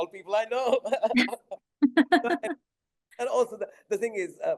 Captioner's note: both laughing